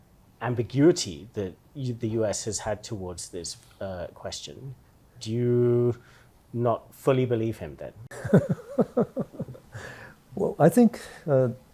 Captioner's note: laughter